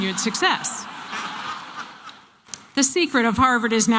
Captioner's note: laughter